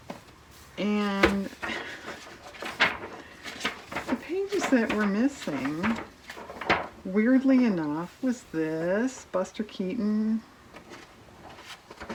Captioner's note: laughs